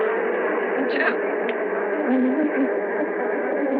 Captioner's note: sobbing